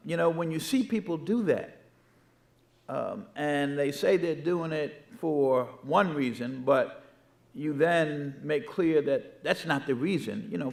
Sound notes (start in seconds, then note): none